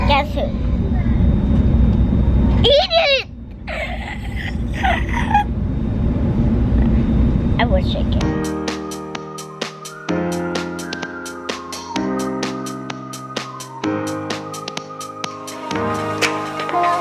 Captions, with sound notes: Guess who. Eat it! (gasping dramatically) I wish I could. (upbeat music)